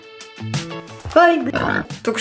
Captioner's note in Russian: хрю